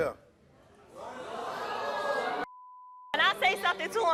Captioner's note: audience boos